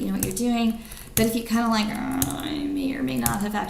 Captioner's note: groans